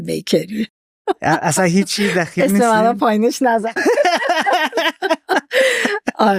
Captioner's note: laughs